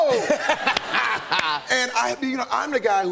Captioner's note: laughter